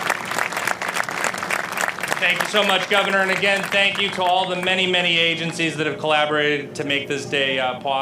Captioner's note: applause